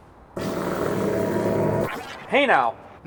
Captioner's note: Jonas power noise